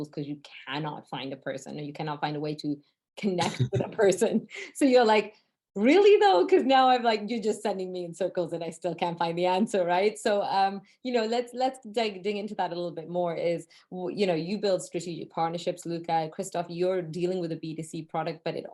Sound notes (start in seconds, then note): 3.5 both laugh